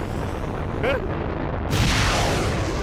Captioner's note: gasps